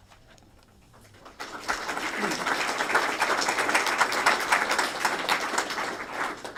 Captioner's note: applause